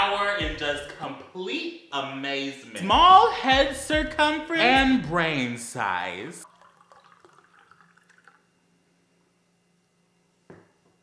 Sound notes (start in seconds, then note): 6.4 pours drink